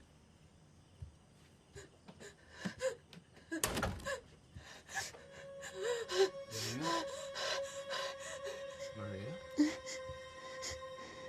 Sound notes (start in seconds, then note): 1.8 Maria sobbing; 7.0 Maria panting